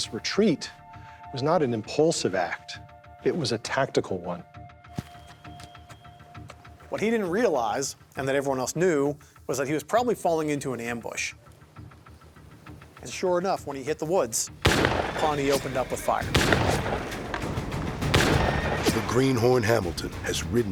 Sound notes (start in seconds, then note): 14.6 gunfire